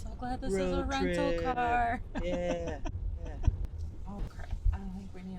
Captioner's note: laughs